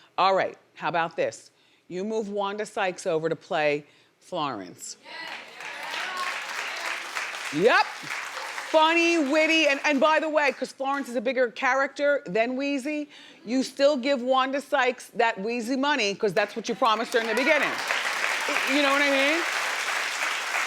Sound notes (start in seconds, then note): 5.2 audience applauding